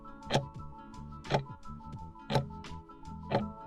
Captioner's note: timer ticking